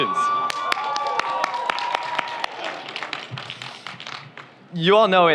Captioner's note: audience cheers; audience applauds